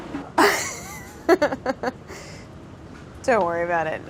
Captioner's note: laughs